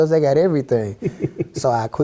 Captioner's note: laugh